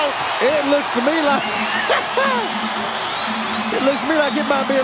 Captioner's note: chuckling